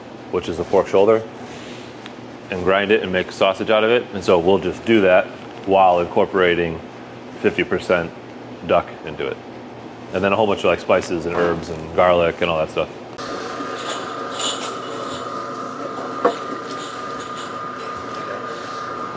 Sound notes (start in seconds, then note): 13.2 mincer grinding